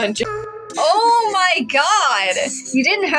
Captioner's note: snicker